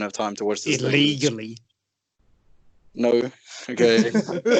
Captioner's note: accusingly